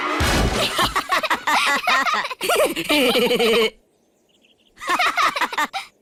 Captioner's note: all laughing; all laughing